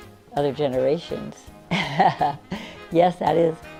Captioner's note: laughs